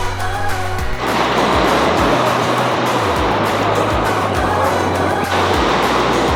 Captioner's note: water crashing on rocks